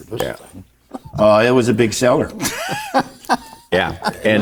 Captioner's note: laughing